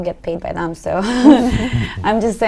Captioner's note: laughs